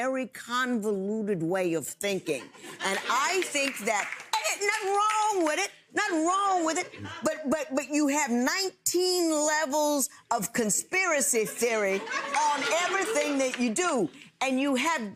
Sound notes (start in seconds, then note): 3.2 audience chuckles